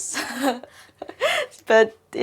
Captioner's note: laughs